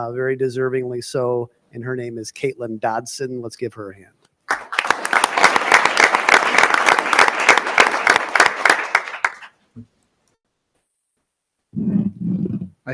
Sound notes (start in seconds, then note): 4.4 audience applauding